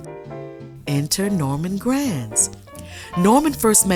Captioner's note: narrator continues